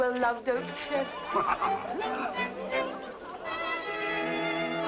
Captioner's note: Rochester laughs; ballroom music plays